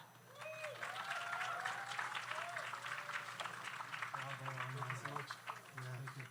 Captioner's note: audience cheers; audience applauds